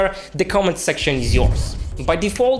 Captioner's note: air whooshing